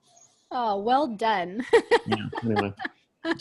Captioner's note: laughs